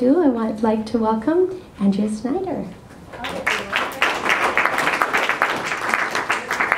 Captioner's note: applause